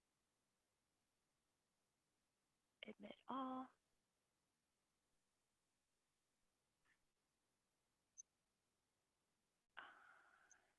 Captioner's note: silence